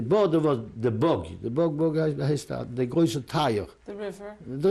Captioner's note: non-english